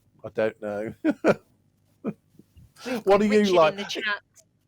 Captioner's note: laughs